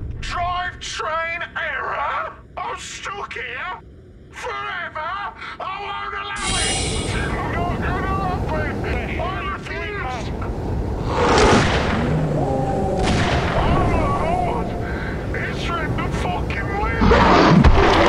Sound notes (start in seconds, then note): 6.4 hatch Opens; 10.8 yeti roars; 11.3 gun fires; 11.7 Yeti Wails; 16.9 yeti roars